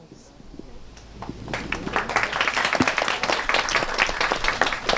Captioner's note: audience applauds